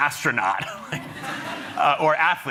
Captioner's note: chuckling